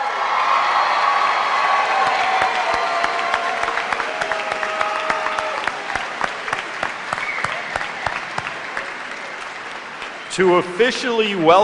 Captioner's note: cheers and applause